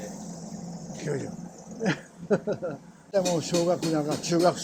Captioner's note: laugh